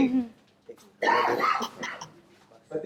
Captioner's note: chuckles